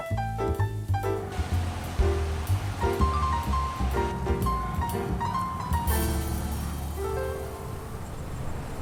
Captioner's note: transition music; city sounds and rainfall